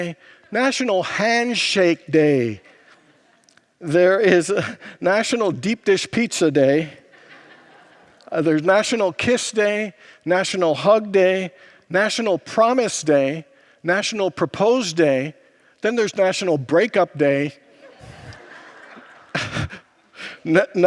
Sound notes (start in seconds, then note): 6.8 congregants laugh